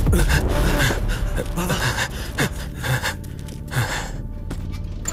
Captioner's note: Panting